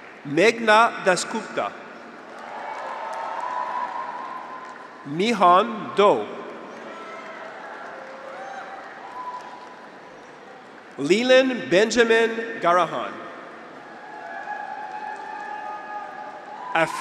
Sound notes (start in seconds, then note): 0.0 audience applauds; 0.0 graduates cheer; 2.1 audience applauds; 2.1 graduates cheer; 6.6 graduates cheer; 6.7 audience applauds; 13.7 graduates cheer